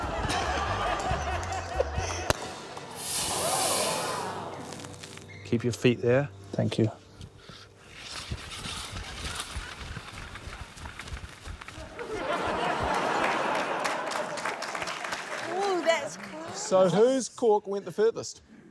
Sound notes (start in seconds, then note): 0.0 chuckles; 2.3 cork pops, champagne hisses; 11.8 laughter; 14.9 applause